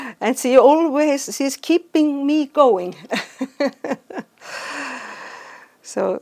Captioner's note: chuckles